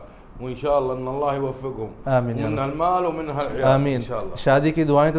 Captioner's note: Arabic